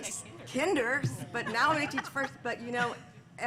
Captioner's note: laughter